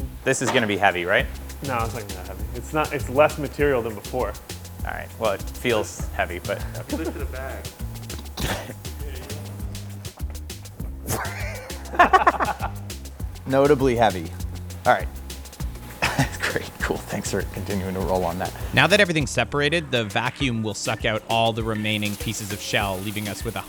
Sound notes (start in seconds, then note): 11.0 laughing